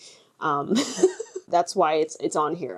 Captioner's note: laughs